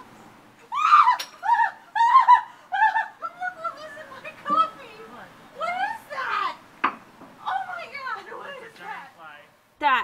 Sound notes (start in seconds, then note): 0.6 screams